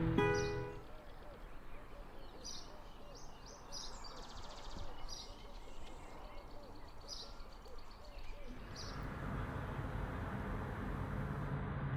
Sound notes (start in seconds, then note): 0.0 birds chirping